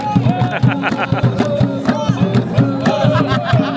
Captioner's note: laugh